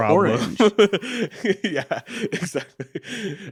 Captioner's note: laughing